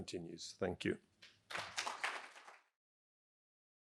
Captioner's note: applause